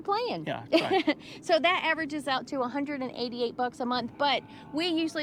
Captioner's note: laughs